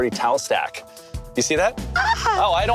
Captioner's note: gasps